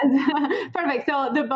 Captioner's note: laughs